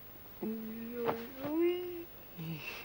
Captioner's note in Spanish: quejidos